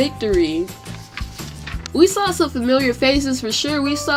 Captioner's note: turns page